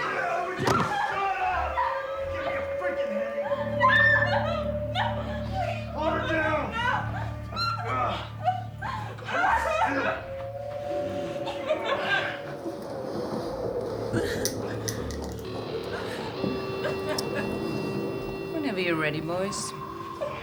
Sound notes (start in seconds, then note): 8.8 crying; 19.6 crying